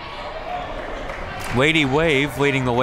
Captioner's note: crowd clapping